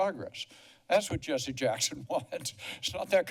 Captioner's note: laughter